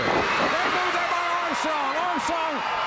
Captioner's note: crowd cheering